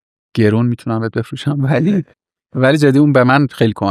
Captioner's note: laughs